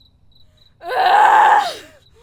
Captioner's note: sound of crickets; Emily yells